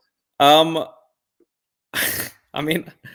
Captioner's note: laughter